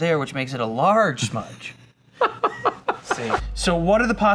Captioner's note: laughs